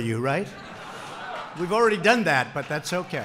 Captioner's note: laughter